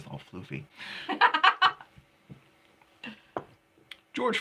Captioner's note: laughing